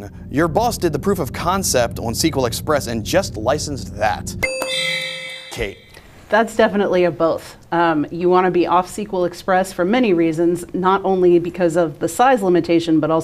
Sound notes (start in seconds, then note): 4.4 ding; 4.4 low bell